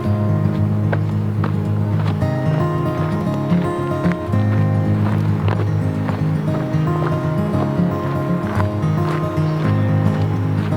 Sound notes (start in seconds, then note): 0.0 acoustic guitar music; 0.0 footsteps crunching